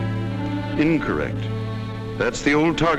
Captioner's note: voiceover